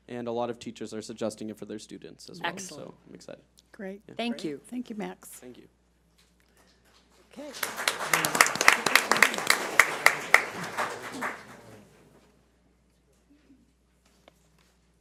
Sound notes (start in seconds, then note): 7.3 audience applauds